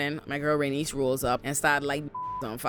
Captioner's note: beep